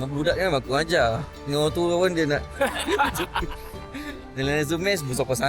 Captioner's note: laugh